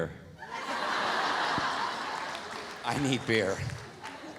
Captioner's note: audience laughs